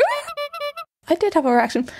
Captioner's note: sobbing